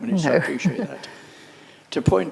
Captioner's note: laughs